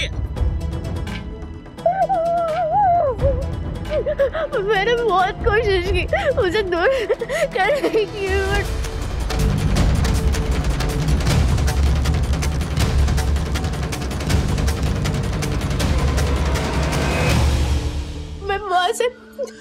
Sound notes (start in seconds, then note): 0.3 tense music playing; 1.8 crying; 9.0 dramatic music playing